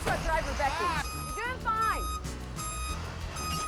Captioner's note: beeping